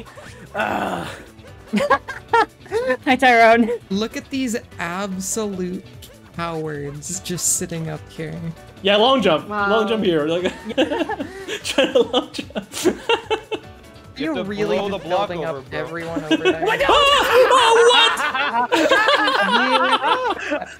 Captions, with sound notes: Urghhhhh Urghhhhh Laughs Laughs Hi Tyron! Hi Tyron! Look at these absolute Hi Tyron! Look at these absolute Hi Tyron! Look at these absolute Look at these absolute COWARDS COWARDS just sitting up here just sitting up here Yeah long jump! Long jump here Yeah long jump! Long jump here Laughing Try to long jump Laughing Try to long jump You have to blow the block over there. You have to blow the block over there. Watch out! Watch out! WHAT?! Watch out! WHAT?! Watch out! WHAT?! (evil laugh) WHAT?! (evil laugh) (evil laugh) (evil laugh) (more evil laugh) (more evil laugh)